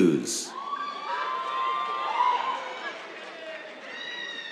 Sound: cheers, applause

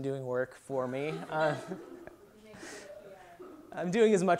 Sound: laughter

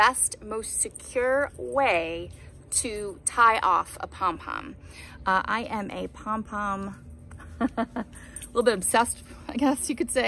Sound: laugh

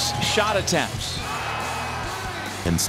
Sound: crowd cheering

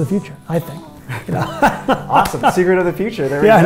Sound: laughter

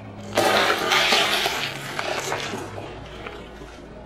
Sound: crunching egg shells

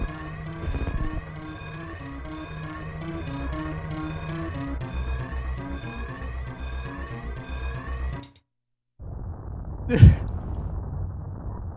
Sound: crying

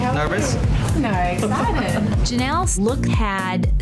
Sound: laughing

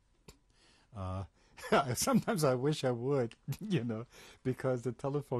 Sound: laughs

